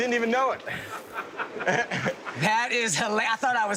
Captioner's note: laughing